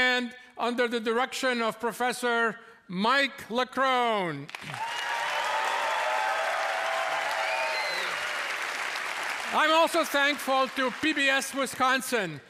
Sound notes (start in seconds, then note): 4.5 cheers and applause